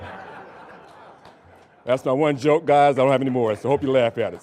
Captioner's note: audience laughing